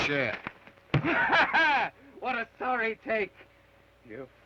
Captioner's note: laughs